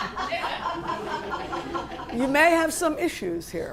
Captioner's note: laughter